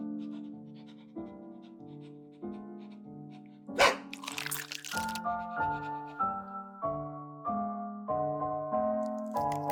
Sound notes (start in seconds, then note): 0.0 Barry pants; 3.7 Barry barks; 7.1 tense music